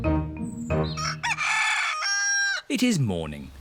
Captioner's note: cockerel crows